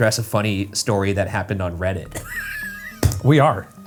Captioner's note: laughs